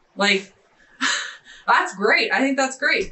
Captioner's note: laughing